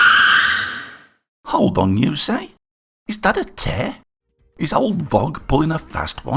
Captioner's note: screech!